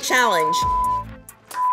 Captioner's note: beep